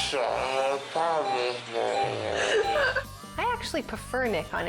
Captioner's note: laughing; muttering